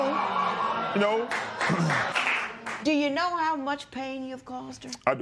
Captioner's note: applause